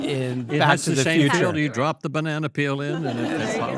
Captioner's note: all laugh